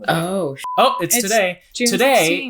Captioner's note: beep